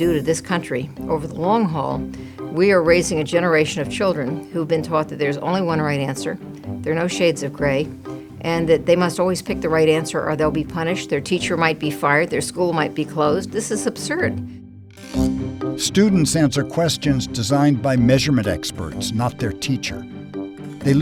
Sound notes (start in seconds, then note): 15.9 voiceover